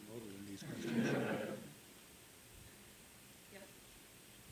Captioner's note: all laughs